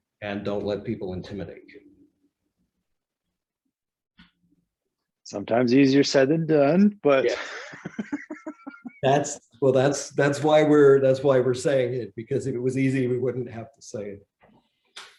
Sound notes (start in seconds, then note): 7.2 laughs